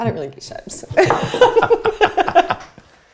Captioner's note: laughing